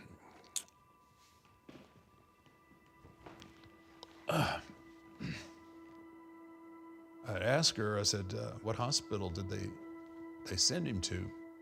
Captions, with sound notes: (Undertaker clears his throat) I asked her, I said, "What hospital did they send him to?"